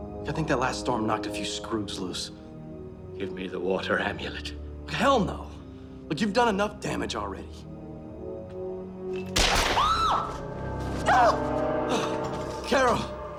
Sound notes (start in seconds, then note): 9.3 gunshot; 9.5 screams